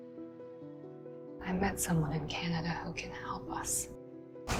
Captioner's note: voiceover